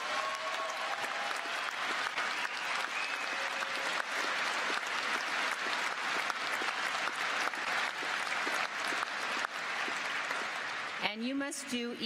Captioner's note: cheers and applause